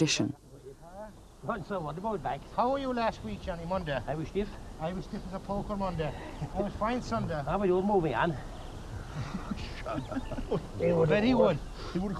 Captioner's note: men speaking